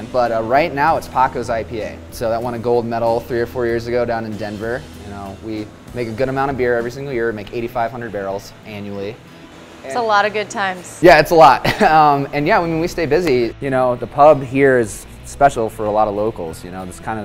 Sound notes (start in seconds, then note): 11.6 laughs